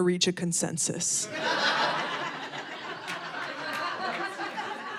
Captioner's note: audience laughing